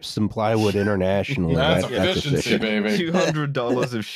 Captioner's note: laughs